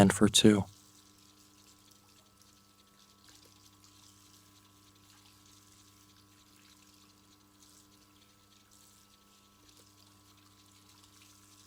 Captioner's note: water running